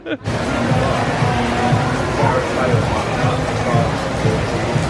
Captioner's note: heavy rainfall